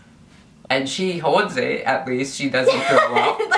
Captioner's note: laughs